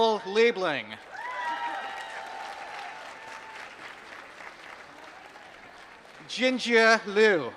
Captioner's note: applause